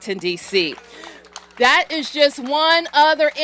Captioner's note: applause